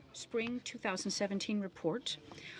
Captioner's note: speaking in french